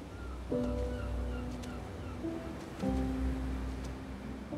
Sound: seagulls calling

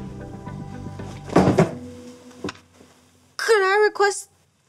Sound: wooden clattering

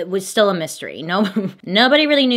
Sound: giggles

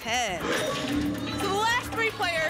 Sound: lock sound

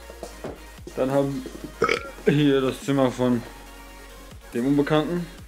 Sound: blurp

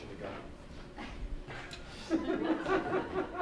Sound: laughing

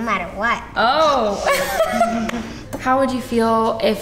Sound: laughing

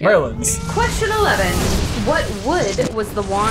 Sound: explosion noise

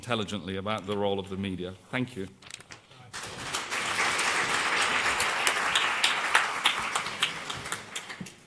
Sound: applause

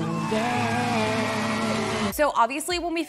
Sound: somber music; audience cheering

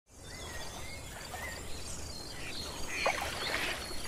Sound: water sloshing; birds chirping; frogs croaking

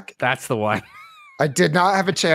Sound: laughs

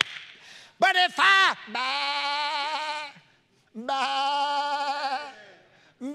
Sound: preacher imitating sheep sound

